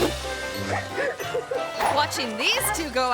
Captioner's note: cameraperson laughing